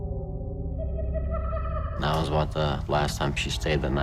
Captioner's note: maniacal laughter